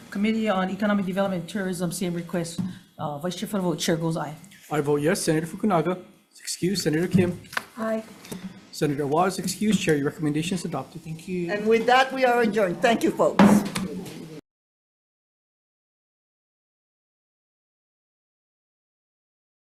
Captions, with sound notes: - Committee on Economic Development, Tourism, same request, Vice-Chair for the vote. Chair goes aye. - I vote yes. Senator Fukunaga. Excused. Senator Kim. - Aye. - Senator Awa's excused. Chair, your recommendations adopted. Thank you. - And with that, we are adjourned. Thank you folks. (gavel bangs)